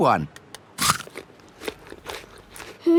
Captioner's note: crunches